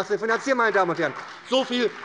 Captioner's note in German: Beifall bei der SPD